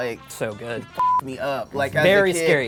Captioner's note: beep